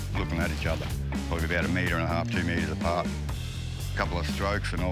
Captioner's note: water bubbling